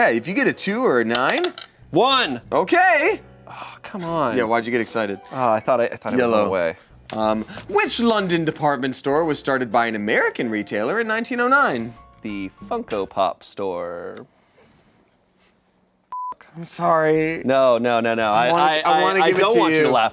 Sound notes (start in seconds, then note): 16.1 beep